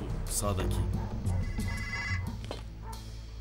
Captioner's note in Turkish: telefon çaliyor